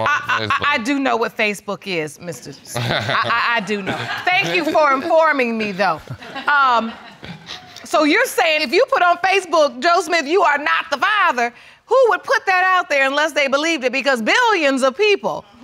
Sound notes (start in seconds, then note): 6.1 laughing